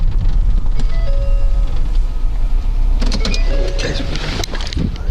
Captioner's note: car door chiming